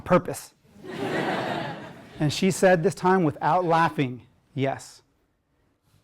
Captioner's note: laugh